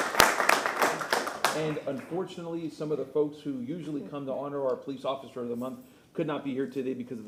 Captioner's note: applause